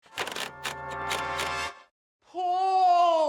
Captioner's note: wheel clicks